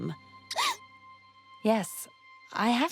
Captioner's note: gasp